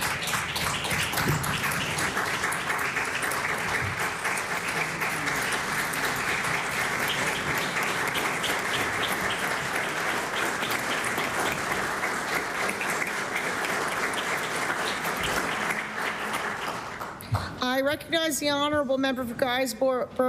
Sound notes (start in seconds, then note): 2.5 applause